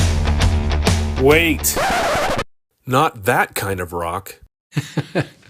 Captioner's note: heavy rock guitar; record stop; laughs